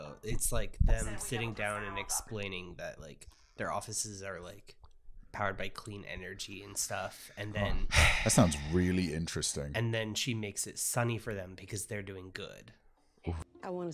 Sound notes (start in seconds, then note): 7.6 sighs